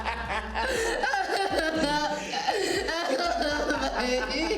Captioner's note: Ben laughing; Mia crying; Ben laughing